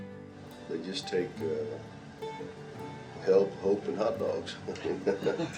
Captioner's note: laughs